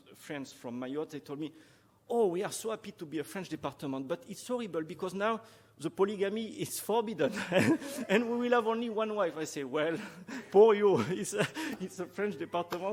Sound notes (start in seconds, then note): 7.2 chuckling